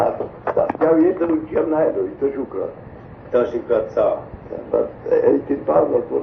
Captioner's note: speaking polish